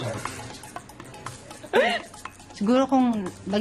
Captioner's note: laughs